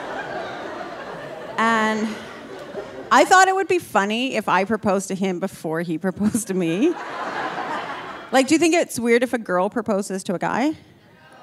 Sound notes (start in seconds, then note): 6.1 audience laughing; 6.8 laughing